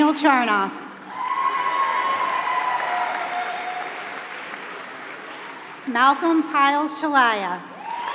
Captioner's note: applause; applause